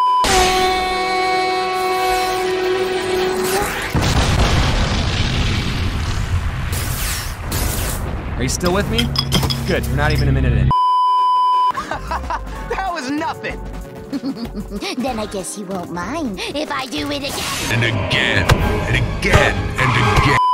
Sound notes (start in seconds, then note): 3.8 triple explosion; 6.6 Rejuvinator crackles; 10.7 beeeeeep; 14.1 snicker; 14.1 laugh